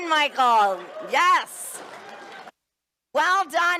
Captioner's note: cheers and applause